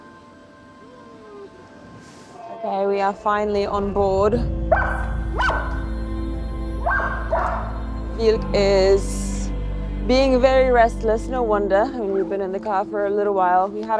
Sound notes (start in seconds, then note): 0.6 pensive music; 5.3 Vilk barks